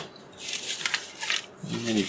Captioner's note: paper crinkles